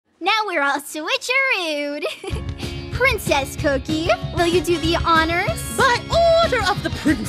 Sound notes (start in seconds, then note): 2.0 giggles